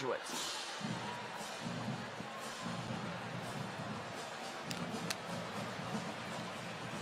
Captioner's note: crowd chattering distantly; rhythmic band music